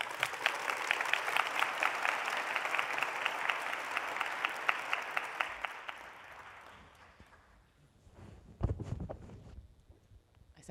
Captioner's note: applause